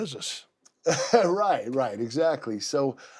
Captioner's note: laugh